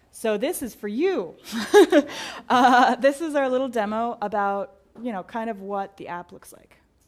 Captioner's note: laugh